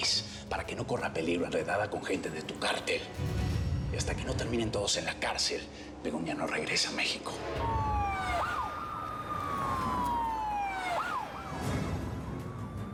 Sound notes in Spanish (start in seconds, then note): 7.4 sonido de sirenas